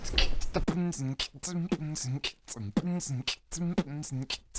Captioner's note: more beatboxing